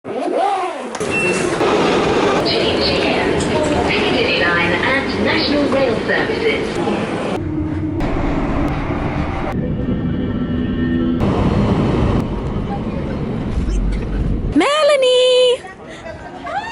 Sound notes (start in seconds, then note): 0.2 train running; 1.2 train station sounds; 7.6 plane noise; 15.0 voiceover